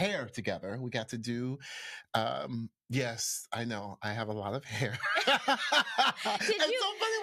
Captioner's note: laughs